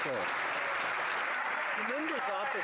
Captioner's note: some Applause